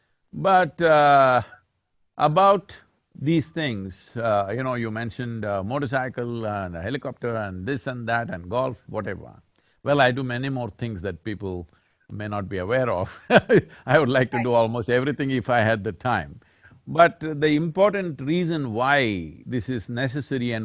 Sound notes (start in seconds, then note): 13.1 laughs